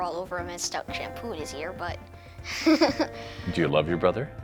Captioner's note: laughs